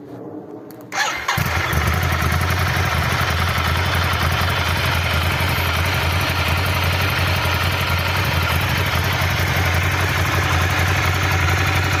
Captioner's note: L2 engine sounds